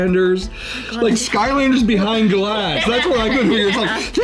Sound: girl laughing

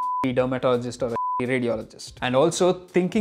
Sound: beep

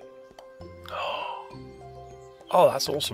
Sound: gasp

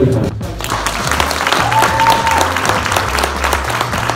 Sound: applause

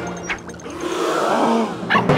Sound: crowd gasps

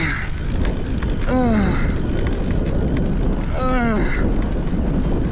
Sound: grunting

